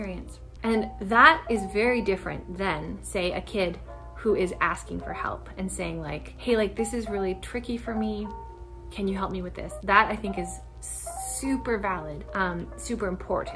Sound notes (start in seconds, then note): none